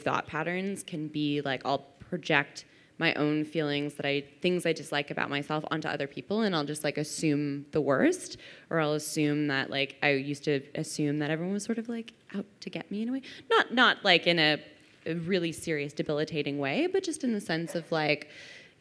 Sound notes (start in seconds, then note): none